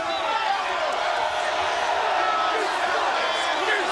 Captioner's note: crowd cheering